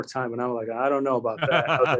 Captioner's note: laughs